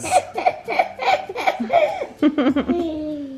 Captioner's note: laughing